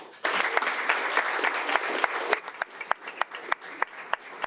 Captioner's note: audience applauding